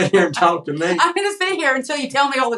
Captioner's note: laugh